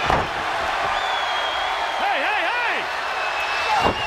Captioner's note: crowd cheering